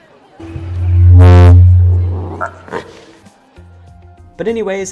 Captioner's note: microphone feedback